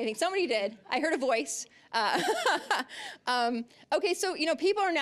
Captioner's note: laughing